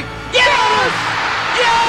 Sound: cheering

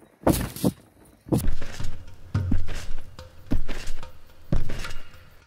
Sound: springs twanging

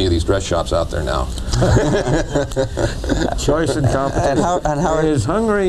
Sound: laughter

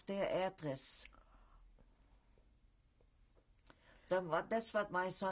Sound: pauses for 3 seconds

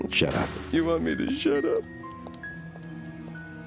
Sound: voice breaks

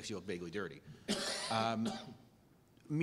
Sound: cough

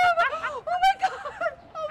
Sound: laughter

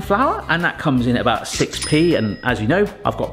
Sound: bell dings

